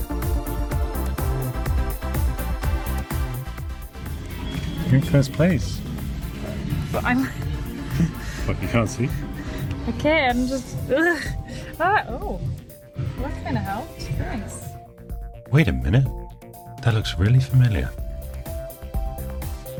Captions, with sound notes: you're in first place. what you can't see? (laughs) wait a minute that looks really familiar